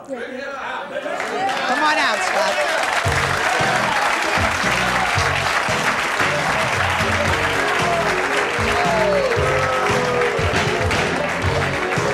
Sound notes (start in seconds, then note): 3.2 audience applauding; 5.9 jazzy music